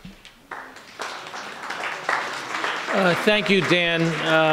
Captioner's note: applauding